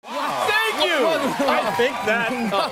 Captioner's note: cheers and applause